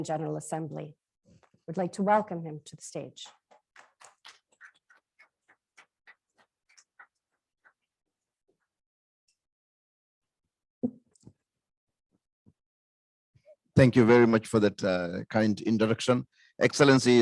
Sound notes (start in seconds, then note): 9.4 applause